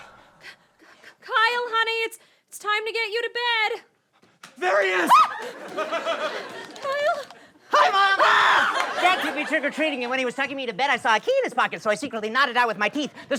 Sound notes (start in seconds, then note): 5.0 screams; 7.7 screams